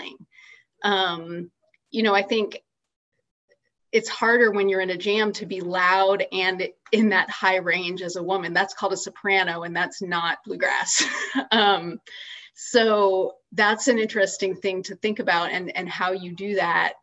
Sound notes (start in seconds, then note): 11.6 laughs